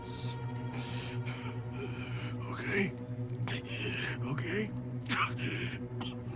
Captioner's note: grasps for air